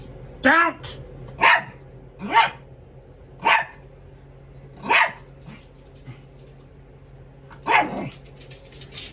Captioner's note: Ella growls then barks at Caprice; Ella barks